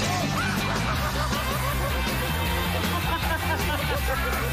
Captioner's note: laughing; groans